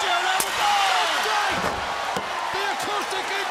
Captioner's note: crowd cheering